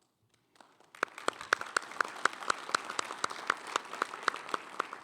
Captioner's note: attendees applauding